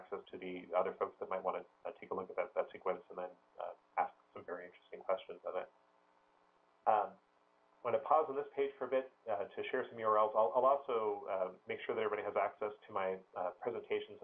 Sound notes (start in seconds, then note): 6.8 pause